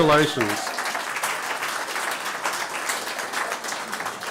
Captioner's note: applause